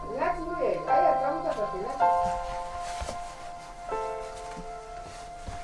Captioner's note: speaks in foreign language